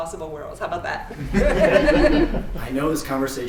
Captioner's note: laughter